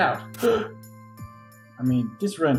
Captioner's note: gasps